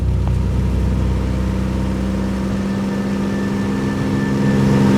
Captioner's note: plane engine